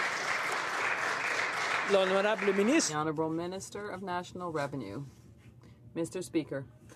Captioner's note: some Applause